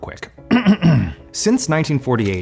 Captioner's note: clears throat importantly